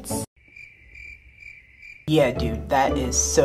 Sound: crickets chirping

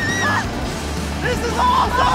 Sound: riders continue screaming

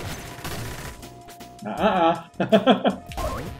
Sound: chuckles

